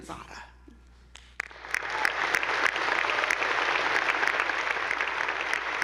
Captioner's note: attendees applauding